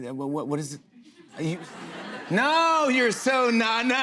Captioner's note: laughter